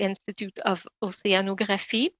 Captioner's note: speaking French